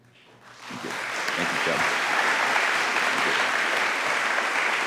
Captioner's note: audience applauding